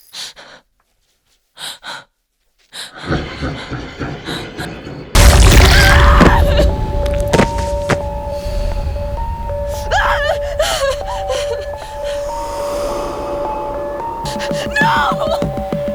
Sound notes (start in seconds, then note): 1.4 Sarah breathes heavily; 2.9 The Tulpa laughs; 5.8 Sarah cries; 5.8 Sarah screams; 14.4 Sarah cries